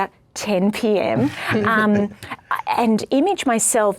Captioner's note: everyone laughs